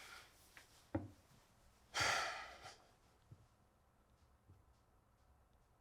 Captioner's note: sighs